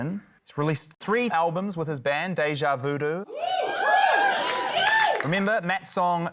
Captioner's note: cheering